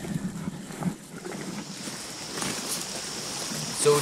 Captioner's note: creek trickling